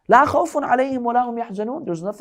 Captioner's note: Arabic